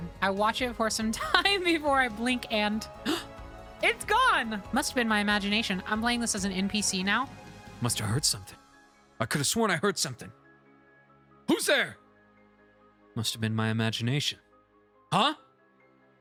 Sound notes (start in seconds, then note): 3.1 gasp; 7.7 NPC Voice